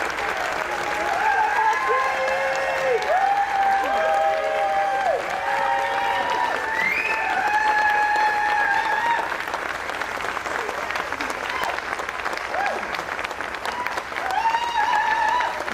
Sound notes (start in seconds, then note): 1.8 applause